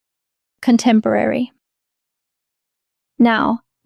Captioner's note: pause